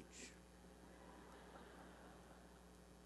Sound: laughter

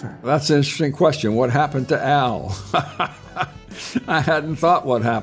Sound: laughing

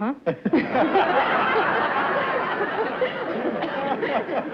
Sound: laughter

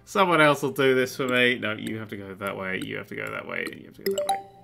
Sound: solving puzzle noises

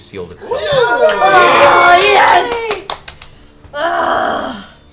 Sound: all cheer

